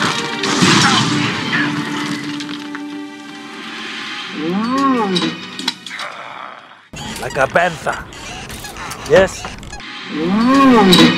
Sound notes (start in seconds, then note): 4.2 bantha noises; 9.9 crazy bantha noises